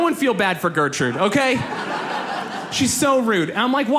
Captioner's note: audience laughs